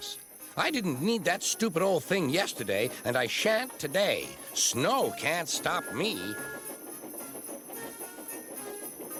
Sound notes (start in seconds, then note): 5.6 toots